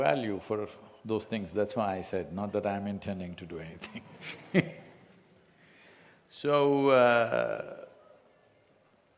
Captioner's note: laughs